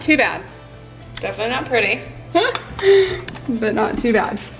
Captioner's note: laughs